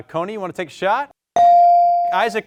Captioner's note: buzzer chimes